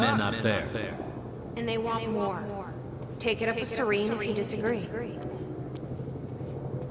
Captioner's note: as an echo from the past